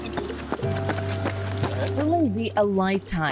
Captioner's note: footstep approaching